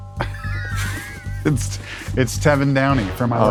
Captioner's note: laughs